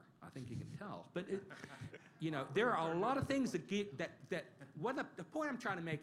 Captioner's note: laughter